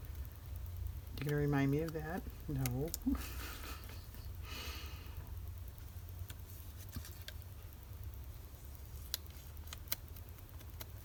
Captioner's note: laughs